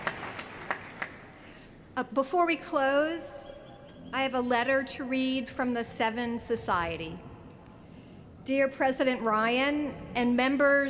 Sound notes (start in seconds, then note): 0.0 cheers & applause